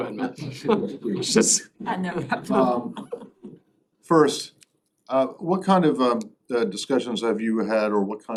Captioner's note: laughter